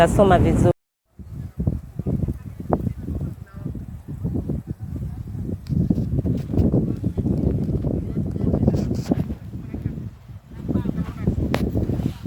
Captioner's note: strong winds rustling